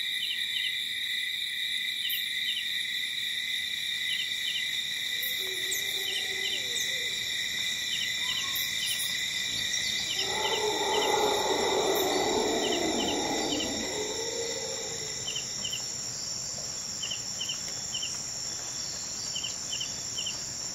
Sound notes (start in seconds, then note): 10.0 animal roaring; 14.6 light jungle ambience